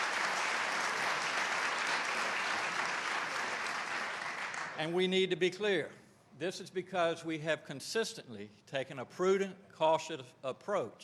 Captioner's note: applause